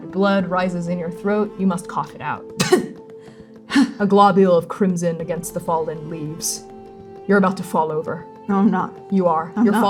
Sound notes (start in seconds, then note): 2.6 spitting; 3.1 exhaling